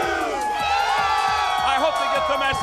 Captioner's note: crowd cheering